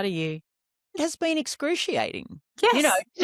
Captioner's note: laughs